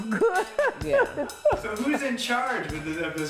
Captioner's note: laughs